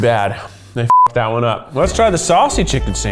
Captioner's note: beep